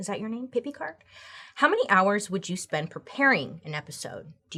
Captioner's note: none